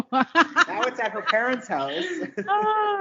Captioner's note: all laughing